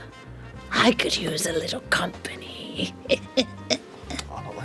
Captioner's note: laughs